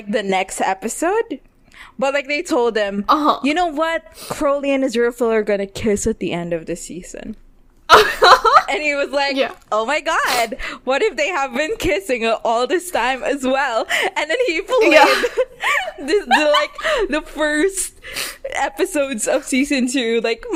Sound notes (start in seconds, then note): 7.9 laughs; 14.7 laughing